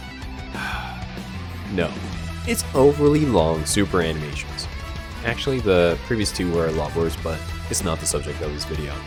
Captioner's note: sigh